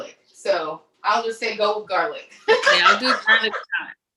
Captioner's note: laughs